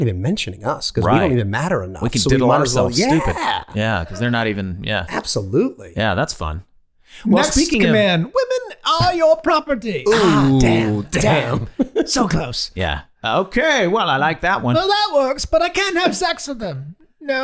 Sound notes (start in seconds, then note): 2.8 laughing